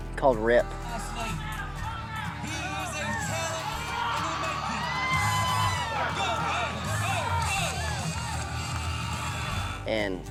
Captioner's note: cheering